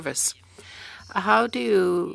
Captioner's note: speaking French